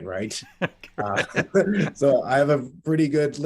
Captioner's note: both laugh